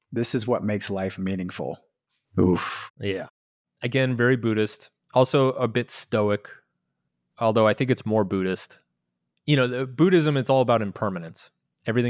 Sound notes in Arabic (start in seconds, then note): none